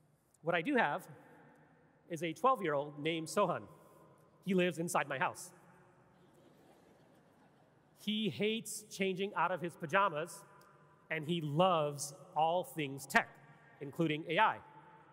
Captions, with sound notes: What I do have is a 12 year old named Sohan. He lives inside my house. (audience laughing) He hates changing out of his pajamas and he loves all things tech, including AI.